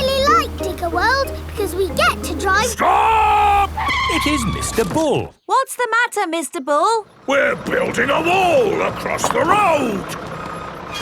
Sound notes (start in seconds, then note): 2.4 tires screeching